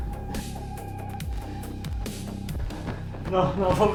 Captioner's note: heavy breathing